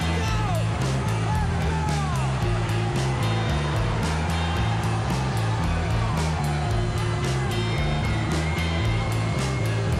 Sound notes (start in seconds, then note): 2.7 bouncy music continues; 2.7 crowd chattering